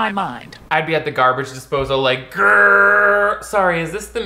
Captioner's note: grunts